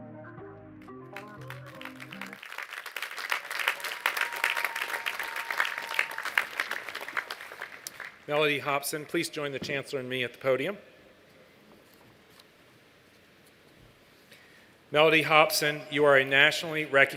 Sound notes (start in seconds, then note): 1.1 applause